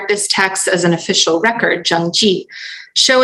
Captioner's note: non-english